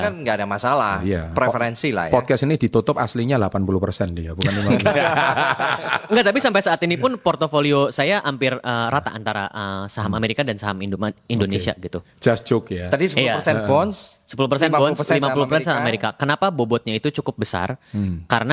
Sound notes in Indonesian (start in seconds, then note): 4.4 tertawa